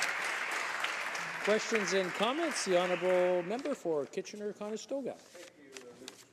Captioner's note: applause